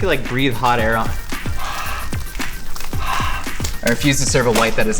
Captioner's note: blows air